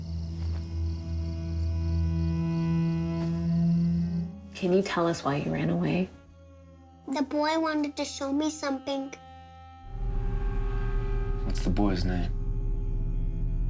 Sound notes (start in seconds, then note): none